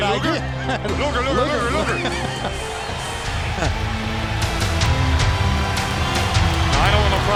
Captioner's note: laugh